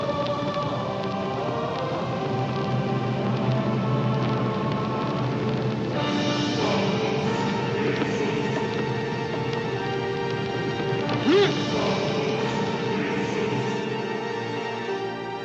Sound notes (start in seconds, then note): 5.8 dramatic music intensifies; 11.2 Sam yells